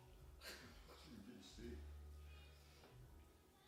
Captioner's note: both Laugh